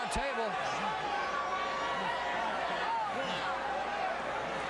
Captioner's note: crowd chattering